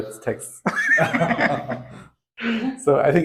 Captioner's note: laugh